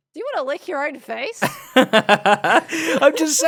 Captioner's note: laughs